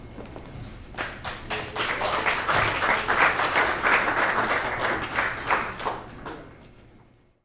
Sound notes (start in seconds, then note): 0.9 audience applauds